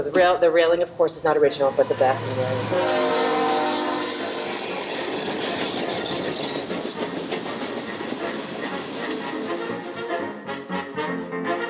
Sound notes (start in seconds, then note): 4.3 train whistle blows; 7.4 ragtime music